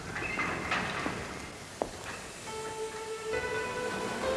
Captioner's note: uap mendesis